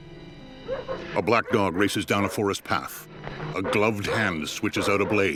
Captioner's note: dog barking; barking continues